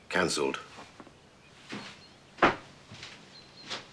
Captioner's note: footsteps receding